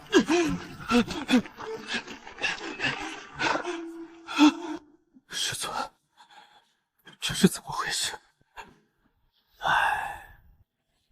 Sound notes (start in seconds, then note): 9.6 sigh